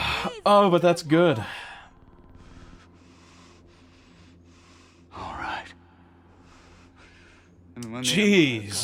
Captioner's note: silence